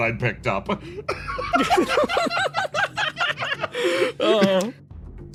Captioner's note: laughs